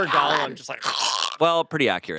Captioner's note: growls